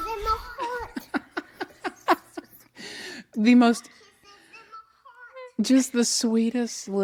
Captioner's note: laughs